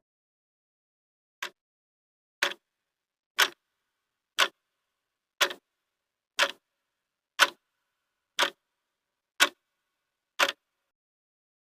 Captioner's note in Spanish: Sonido de reloj